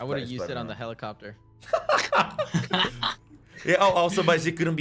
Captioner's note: laughing